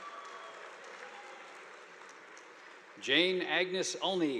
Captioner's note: audience applauding